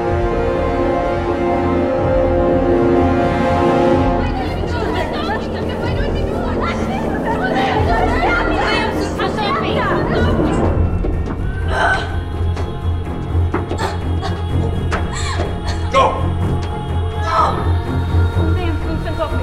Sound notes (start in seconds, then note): 4.0 frantic chattering